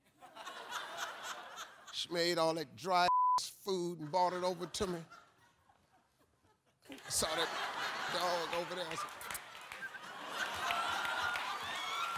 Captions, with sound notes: She made all that dry (beep) food and brought it over to me. Saw that dog over there, I was like (whistles).